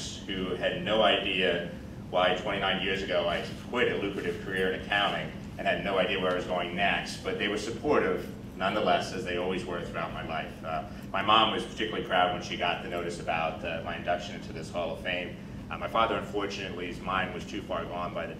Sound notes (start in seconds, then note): none